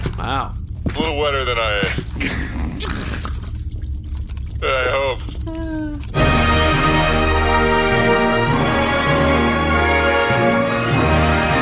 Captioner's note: wet dripping noises come